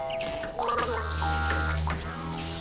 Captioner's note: Tommy gargling; adds deep foreboding music